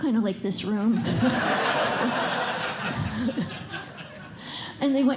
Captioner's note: laughter